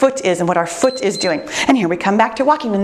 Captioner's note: timer beeps